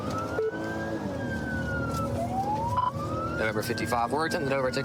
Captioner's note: sirens wailing